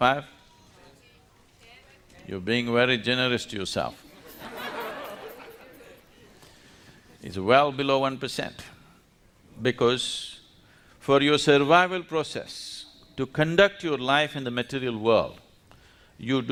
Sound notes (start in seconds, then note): 4.0 laughter